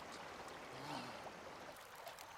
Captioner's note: sighs